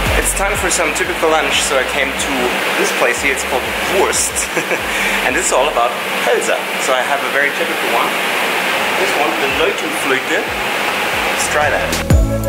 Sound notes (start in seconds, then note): 4.2 giggles